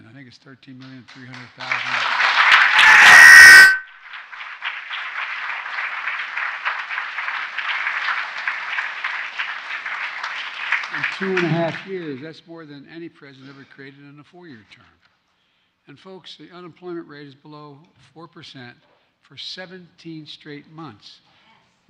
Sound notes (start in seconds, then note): 7.2 applause